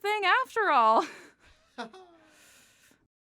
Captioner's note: both laugh nervously